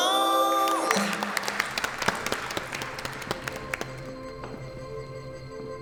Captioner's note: the sound of people clapping their hands